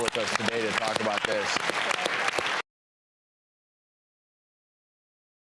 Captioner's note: audience applause